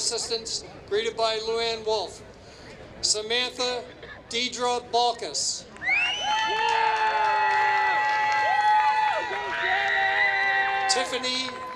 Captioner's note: applause